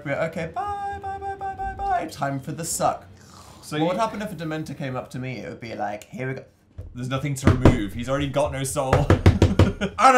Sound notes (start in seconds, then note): 3.1 slurping noise again; 8.8 laughs